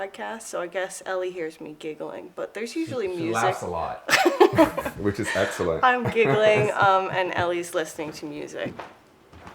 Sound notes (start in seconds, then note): 4.1 laughs